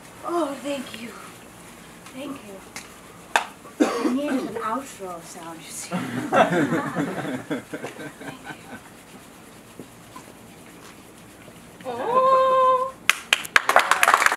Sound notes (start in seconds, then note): 6.0 laughter; 13.0 applause